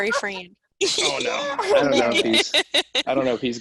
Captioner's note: teammates laughing